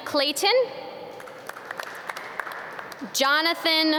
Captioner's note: audience clap